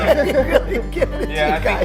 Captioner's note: laughing